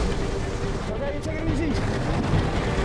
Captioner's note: water whooshing; intense music